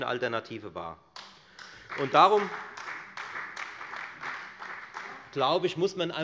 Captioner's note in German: Beifall bei der FDP und der LINKEN